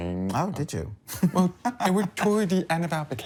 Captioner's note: chuckles